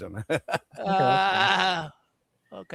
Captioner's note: laughter